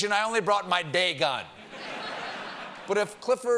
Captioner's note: laughter